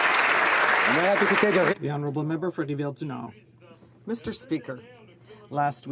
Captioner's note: some Applause